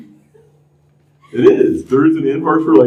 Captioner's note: laughter